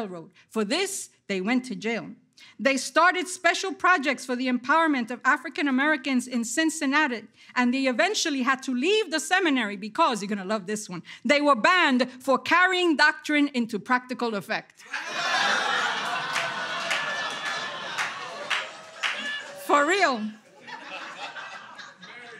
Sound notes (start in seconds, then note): 14.8 audience laughter